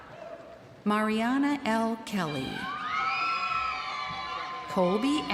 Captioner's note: crowd cheering